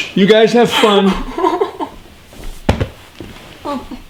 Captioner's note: morgan laughing